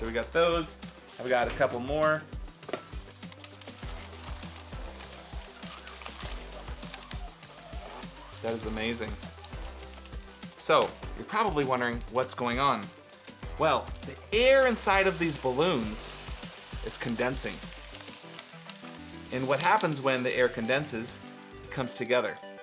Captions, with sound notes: All right so we've got those. Have we got a couple more? (crackling) That is amazing. So you're probably wondering what's going on. Well, the air inside of these balloons is condensing and what happens when the air condenses, it comes together.